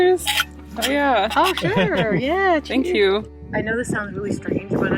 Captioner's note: glasses clink